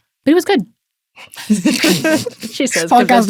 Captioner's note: people laughing